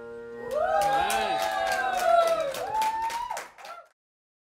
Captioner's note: applause, cheering